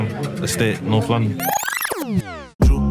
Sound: tape rewinding

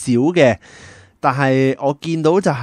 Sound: deep breathe

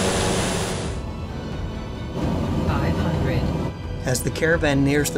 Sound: Garmin height above terrain auto callout

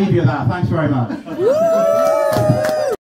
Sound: wooooo!

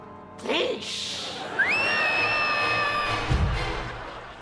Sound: screaming

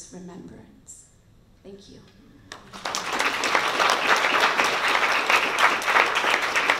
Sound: applause

